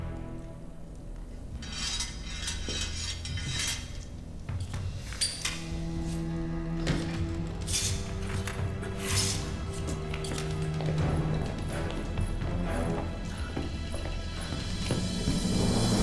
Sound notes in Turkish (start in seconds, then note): 1.6 Kılıç sesleri; 6.7 Kapı açılma sesleri; 6.7 Kapı gıcırdama sesleri; 9.0 Ayak sesleri; 9.0 Müzik - Gerilim